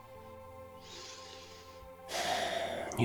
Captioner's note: sighs